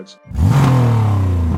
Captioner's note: car revs